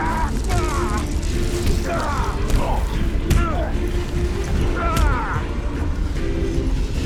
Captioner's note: both grunting; punches thudding